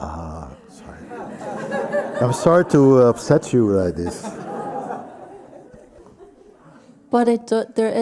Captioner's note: laughter